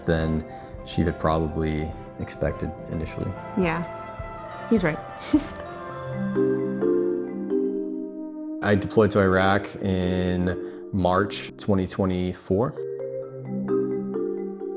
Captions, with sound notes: than she had probably expected initially. - Yeah. He's right. (giggles) (bright music) - I deployed to Iraq in March, 2024.